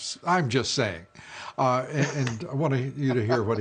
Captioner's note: laughter